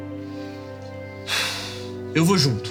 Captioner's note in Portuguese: suspiro